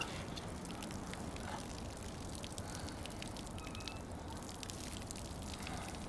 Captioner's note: gas dripping